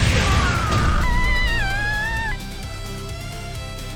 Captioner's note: crying